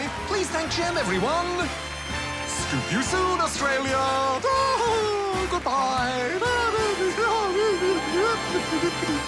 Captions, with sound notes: (CHEERING AND APPLAUSE) Please thank Gem, everyone. Scoop you soon, Australia! Ah-ha-ha! Goodbye! (BABBLES CHEERFULLY)